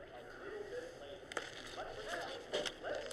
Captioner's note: movie continues in background